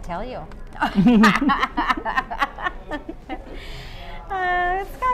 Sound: they both laugh

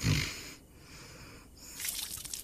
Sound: snores

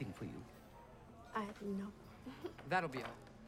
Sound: chuckling

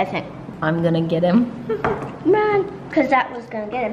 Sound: giggles

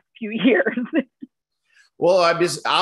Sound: laughter

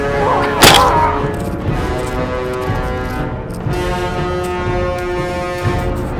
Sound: Smack down sound by Bumpy; intense music

